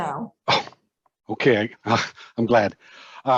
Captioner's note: chuckles